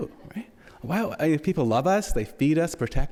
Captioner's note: audience laughs